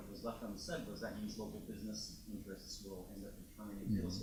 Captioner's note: speaks faintly